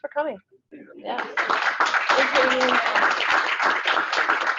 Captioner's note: group applauds